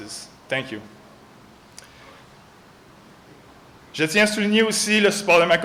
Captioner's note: In French, thanks partner Julie; in French, thanks parents